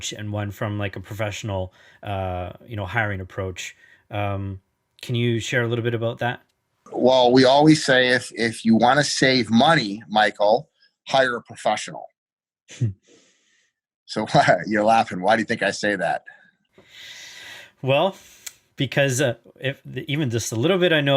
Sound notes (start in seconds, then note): 12.9 snickers; 14.3 chuckles